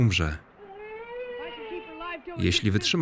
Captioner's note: baby crying